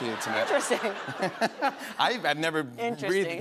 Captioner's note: laughter